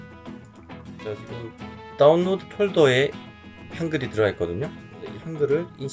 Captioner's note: korean language